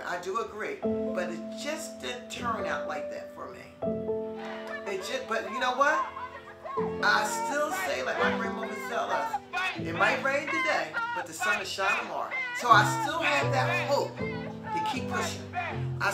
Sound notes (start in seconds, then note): 6.0 crowd yells in background